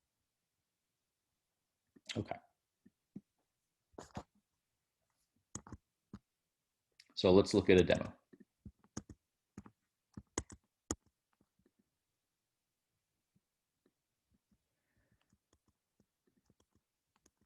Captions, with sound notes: Okay. So, let's look at a demo. [Typing]